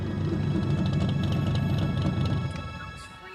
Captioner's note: Ferrari revving